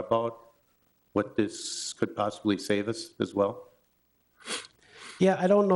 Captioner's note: sniffles